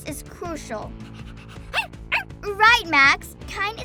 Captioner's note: Max panting and barking